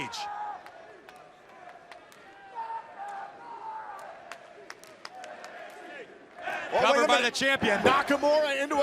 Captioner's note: crowd cheering